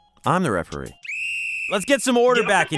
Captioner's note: whistle blowing